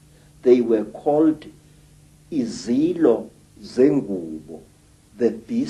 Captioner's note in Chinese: 祖鲁语发音